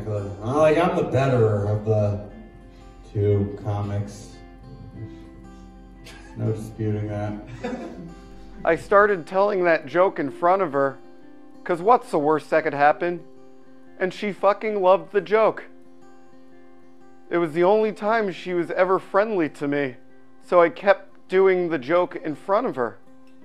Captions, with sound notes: Like, I'm the better of the two comics. No disputing that. (audience laughing) I started telling that joke in front of her 'cause what's the worst that could happen? And she fucking loved the joke. It was the only time she was ever friendly to me, so I kept doing the joke in front of her.